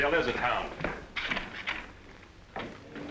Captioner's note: door opens